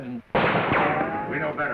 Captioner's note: gunshot